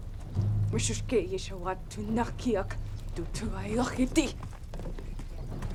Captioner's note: speaks tribal language